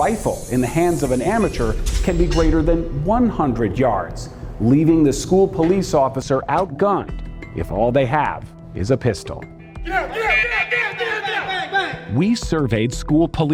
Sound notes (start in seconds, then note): 9.8 people shouting